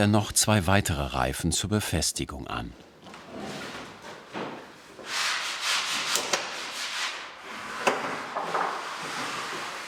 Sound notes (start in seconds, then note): 4.7 grinding and sawing noises in the background